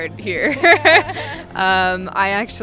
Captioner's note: laughing